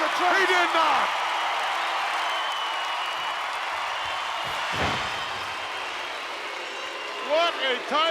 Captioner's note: applause